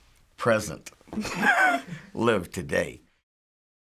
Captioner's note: laughs; silence